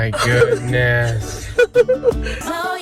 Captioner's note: chuckling